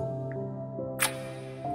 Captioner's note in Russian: звук поцелуя